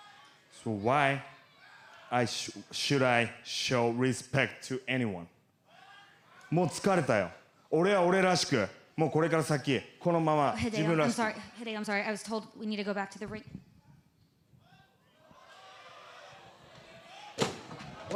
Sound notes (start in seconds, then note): 8.2 speaking foreign language